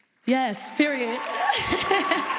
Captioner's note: audience cheers; laughs